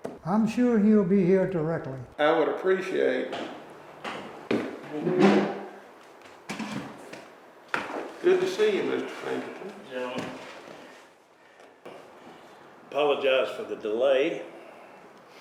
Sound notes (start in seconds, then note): 3.8 footsteps